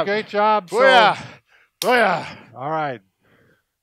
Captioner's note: sticks clacking